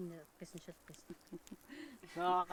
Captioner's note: laughing